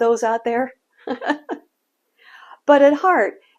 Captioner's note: laughs